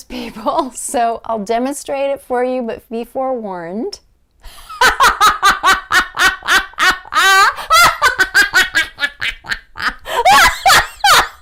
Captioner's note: laughter